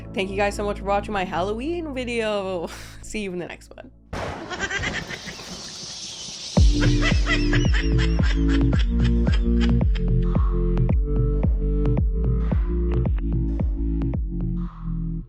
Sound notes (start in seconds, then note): 4.6 bats screeching; 6.6 ghouls laughing